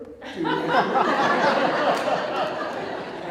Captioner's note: audience Laughter